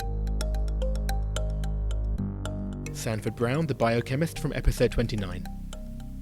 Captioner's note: voiceover